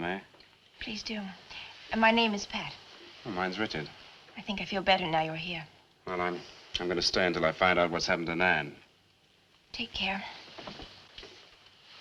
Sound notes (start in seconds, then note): none